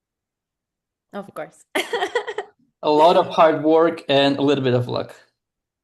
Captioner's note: laughs